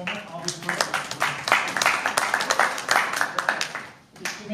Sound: applause

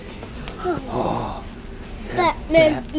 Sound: dad gasps

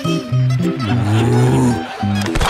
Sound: growling; screaming, thudding

